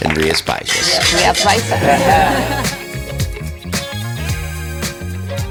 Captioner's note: glasses clink together